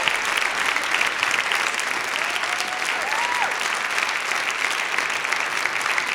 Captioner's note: applause